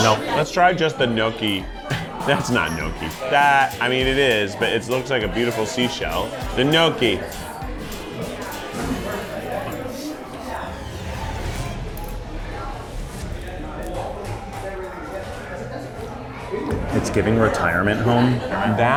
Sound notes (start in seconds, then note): 1.8 laughs; 8.0 upbeat music; 10.8 ominous music